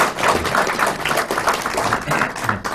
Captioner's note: applause